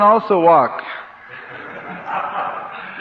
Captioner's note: laughter